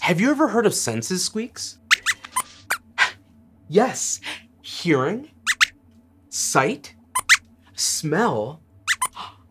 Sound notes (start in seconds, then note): 2.3 squeaks squeaks; 5.4 squeaks squeaks; 7.2 squeaks squeaks; 8.9 squeaks squeaks